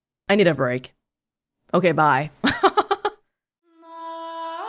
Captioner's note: chuckles